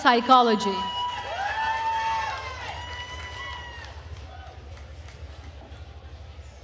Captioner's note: attendees cheering and applauding